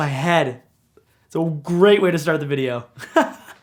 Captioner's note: laughs